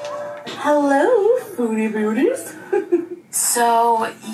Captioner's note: giggles